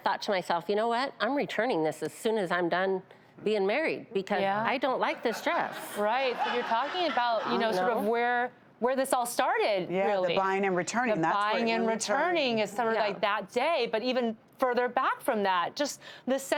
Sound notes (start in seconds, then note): 5.2 audience laughing